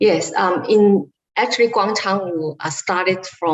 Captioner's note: none